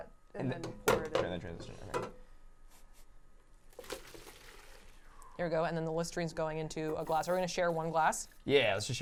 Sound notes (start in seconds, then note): 3.8 ramen splashing